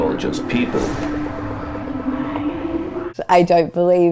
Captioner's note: voices whispering